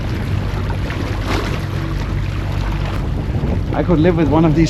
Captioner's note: sound of water